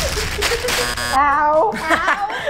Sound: buzzer

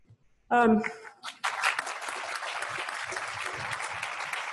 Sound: crowd clapping

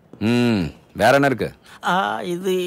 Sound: speaks Hindi

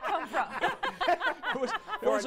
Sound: laughter

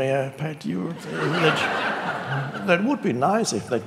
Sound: audience laughing

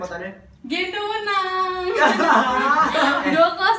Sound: laugh

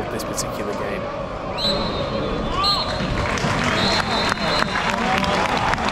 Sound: referee blow whistle; crowd clapping

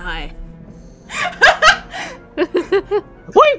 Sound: laughter

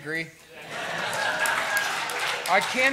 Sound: laughter

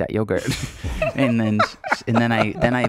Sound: laughing

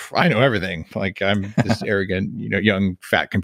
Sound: laughs

